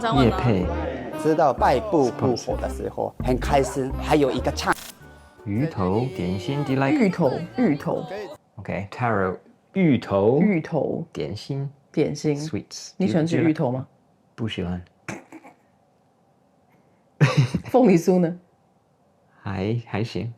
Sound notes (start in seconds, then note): 5.4 speaks wrong tones